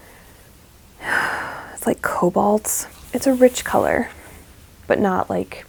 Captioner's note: sigh